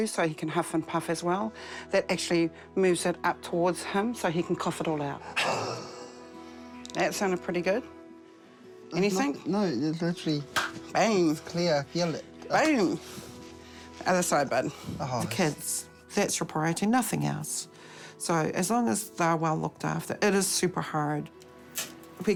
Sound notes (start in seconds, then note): 5.6 exhales wheezily